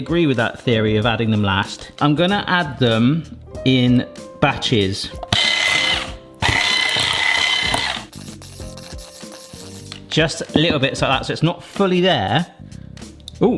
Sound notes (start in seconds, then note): 6.4 whisk whirring